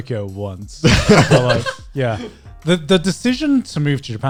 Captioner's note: guys laughing